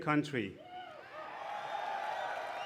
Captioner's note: applause